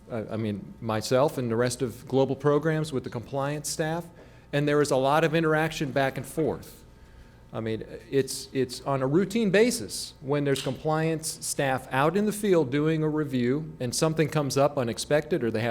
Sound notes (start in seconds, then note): none